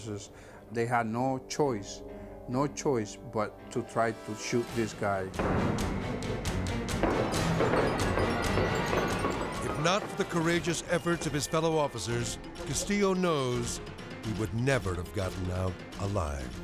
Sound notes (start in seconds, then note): 5.0 gunshots popping; 5.0 tense music